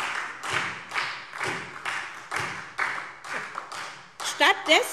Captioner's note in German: Beifall SPD und vereinzelt Freie Demokraten